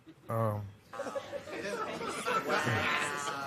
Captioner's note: audience murmurs